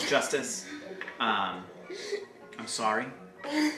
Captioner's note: chuckles